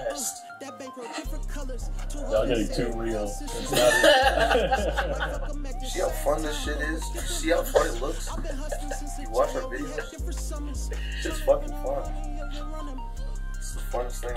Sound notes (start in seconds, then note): 3.6 laughter; 6.2 music fades out